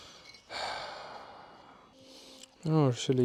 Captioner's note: defeated sigh